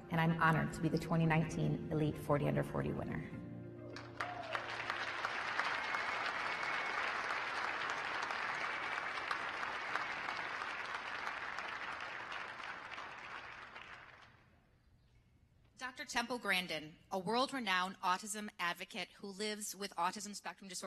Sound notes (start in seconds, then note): 3.9 applause